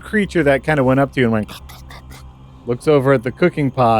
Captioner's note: abbreviated version of unpleasant mouth noises